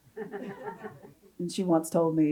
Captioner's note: audience chuckles